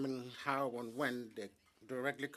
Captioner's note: speaking French